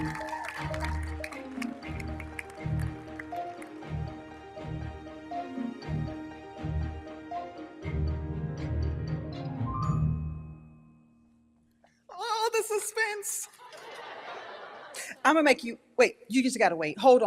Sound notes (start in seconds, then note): 0.0 audience cheers; 0.0 audience applauding; 3.0 bright music continues; 10.4 bright music fades; 13.6 audience laughs